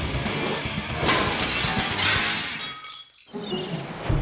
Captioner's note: rock music; logo shattering; mysterious music